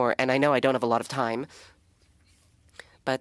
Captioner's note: speaking French